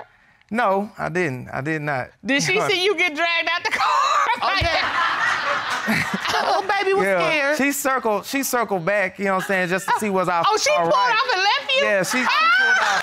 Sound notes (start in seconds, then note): 3.8 laughs; 4.3 audience laughing; 11.7 laughs